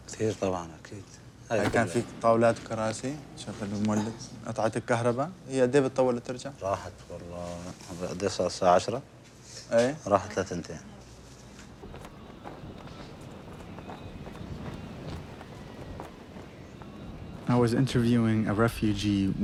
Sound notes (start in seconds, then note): 0.1 man speaking foreign language; 1.7 speaking foreign language; 7.3 man speaking foreign language; 11.6 clothes flapping